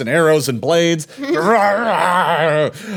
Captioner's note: roaring